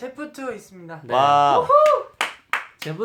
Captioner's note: cheers